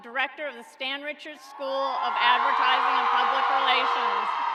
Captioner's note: cheering